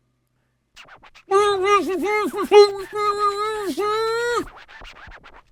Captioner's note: muffled voice